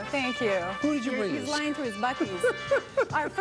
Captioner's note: laughs